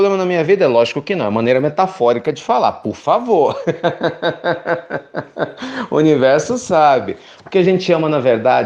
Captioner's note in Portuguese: risos